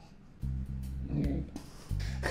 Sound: quiet, strained laughter; gag reflex

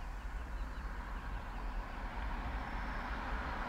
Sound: car engine sound

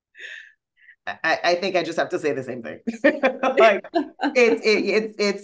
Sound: laughing

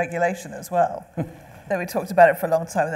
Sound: laughing

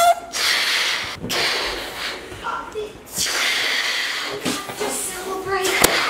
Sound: balloon squeaks; blows air; light thud

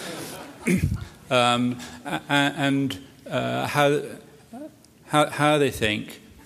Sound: laughter

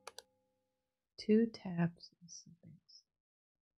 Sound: quietly

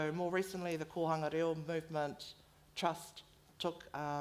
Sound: foreign language

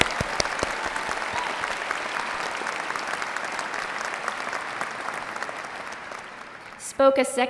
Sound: applause

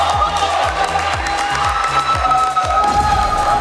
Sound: clapping

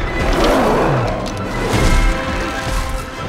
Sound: roars

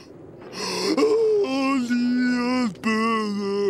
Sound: groaning

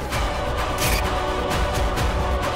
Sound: sound effect playing

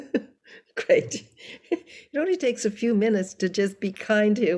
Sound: laughing

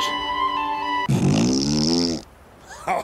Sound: disturbing fart noises; along with disturbing laugh

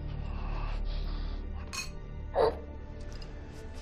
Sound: gasping

